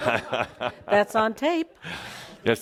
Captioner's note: Adamus chuckles